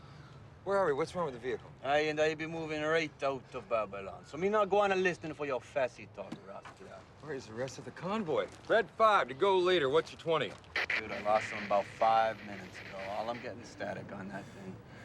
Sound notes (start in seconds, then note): 1.9 speaks in Jamaican accent; 10.7 static; 11.0 speaks normal